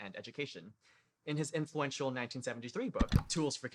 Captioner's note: click